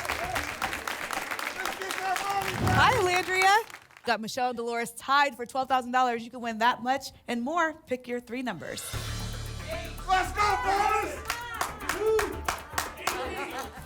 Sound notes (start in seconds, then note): 0.0 applause and cheering cont; 10.1 audience shouting numbers